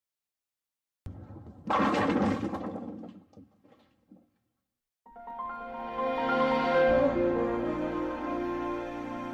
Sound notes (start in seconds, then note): 1.1 bowling ball rolling, bowling pins colliding